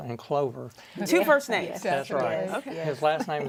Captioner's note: women laugh